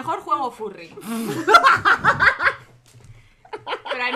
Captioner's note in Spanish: risas